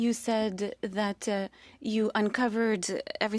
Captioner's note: speaking French